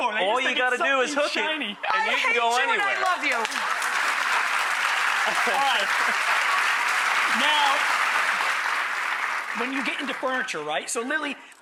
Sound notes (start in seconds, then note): 4.5 audience claps